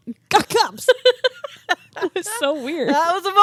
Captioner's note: both laughing